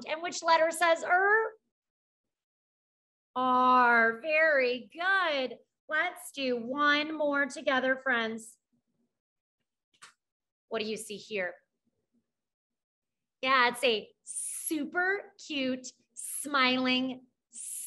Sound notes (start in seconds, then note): none